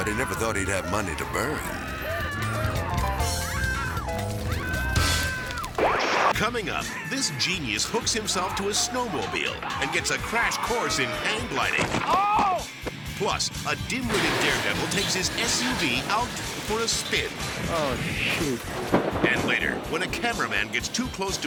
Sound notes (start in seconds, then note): 0.0 man screaming; 0.0 whimsical music; 2.0 people screaming continues; 2.0 whimsical music continues; 5.6 transition whooping